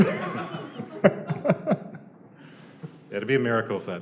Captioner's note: laughter